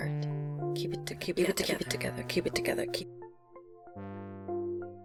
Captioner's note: echoing "keep it together"